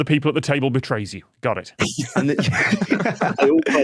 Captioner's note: guests laughing